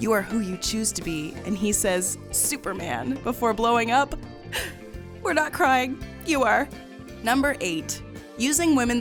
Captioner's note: sniffles